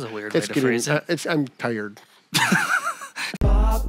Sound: laughing

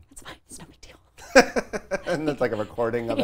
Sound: laughing

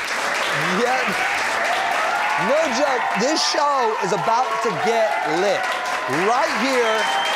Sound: applause; applause

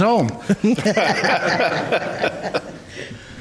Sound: laughter

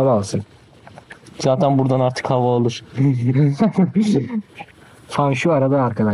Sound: laughs

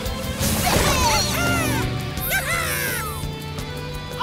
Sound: cheering

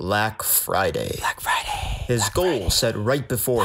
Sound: whispers

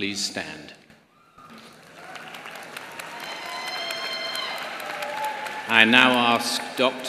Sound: applause

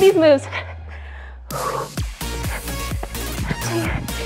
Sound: heavy breathing

